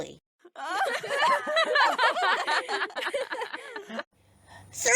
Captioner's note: girls laughter